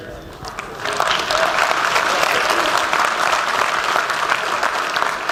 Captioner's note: applause